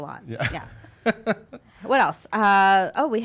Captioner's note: laughs